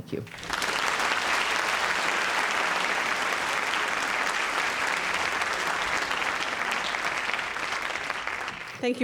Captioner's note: audience applauds